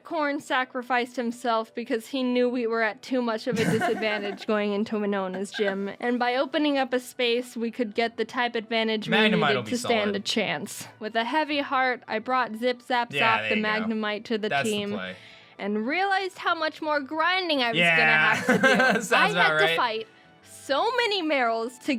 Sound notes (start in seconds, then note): 5.3 laughs